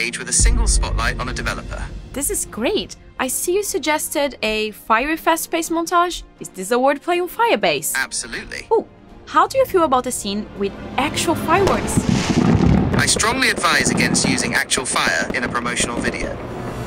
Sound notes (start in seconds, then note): 11.6 fireworks boom